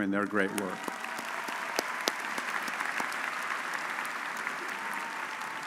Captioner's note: audience applauds